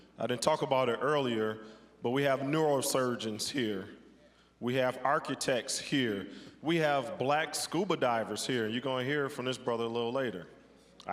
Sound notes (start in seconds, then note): none